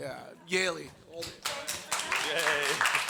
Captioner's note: all clapping